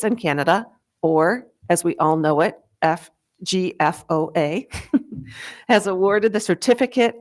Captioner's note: giggles